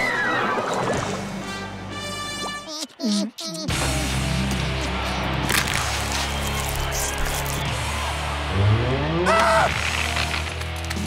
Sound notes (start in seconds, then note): 9.1 screaming